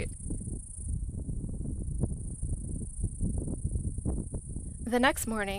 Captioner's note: wind and cicada noise